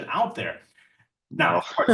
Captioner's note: laughs